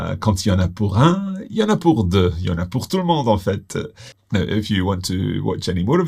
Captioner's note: speaks in foreign language